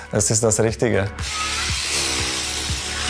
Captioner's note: loud whirring